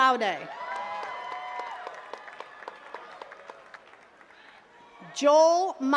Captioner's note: attendees cheering and clapping